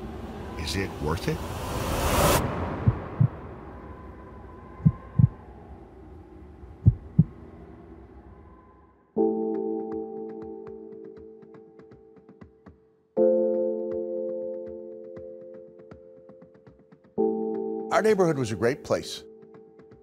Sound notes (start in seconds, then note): 2.8 heartbeat thumping; 8.9 pensive music